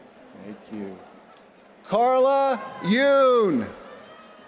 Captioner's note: applause